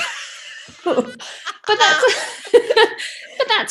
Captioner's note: laughter